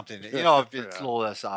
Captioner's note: laughs